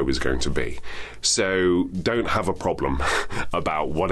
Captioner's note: chuckles